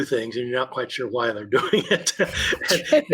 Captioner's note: laughs